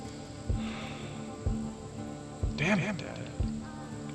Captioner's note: Oliver sighs